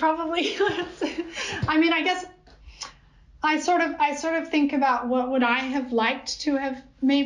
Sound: laughter

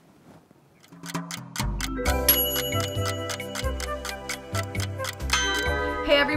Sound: clock ticking; lively music

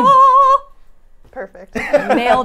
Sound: laughs

